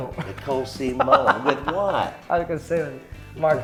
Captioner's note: laughing